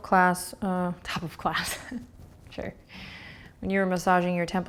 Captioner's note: laughs